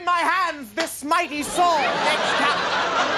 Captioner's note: smack; audience laughing